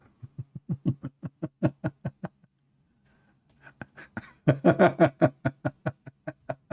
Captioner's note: Ketawa